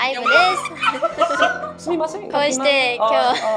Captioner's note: the girls are laughing for some reason